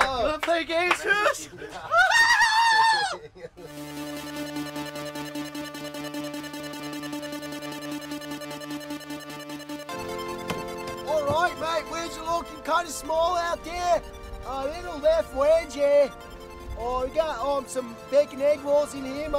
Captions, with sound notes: Want to play games, Poops? [SHRIEKS] [UPBEAT MUSIC PLAYING] All right, mate. Waves are looking kind of small out there. A little left wedgie. Oh, we got some bacon egg rolls in here, mate.